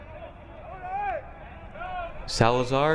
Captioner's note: crowd member yelling